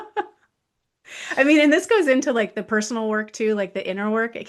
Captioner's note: laughs